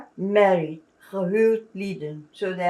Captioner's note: non-english